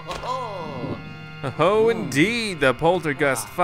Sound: voiceover

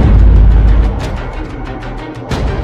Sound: thunder

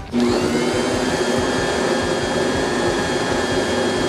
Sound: mixer whirring

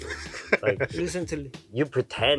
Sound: laughs; speaking in Korean

